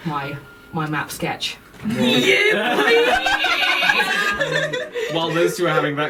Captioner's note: laughter